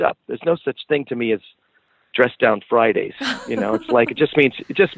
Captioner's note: laughs